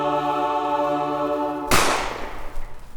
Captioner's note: gunshot